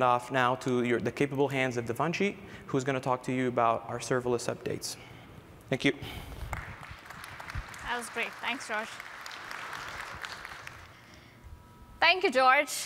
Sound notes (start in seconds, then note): 9.3 applause